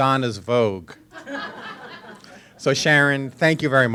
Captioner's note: audience laughing